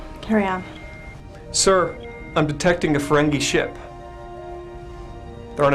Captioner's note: alarm